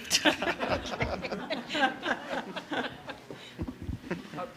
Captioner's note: audience laughter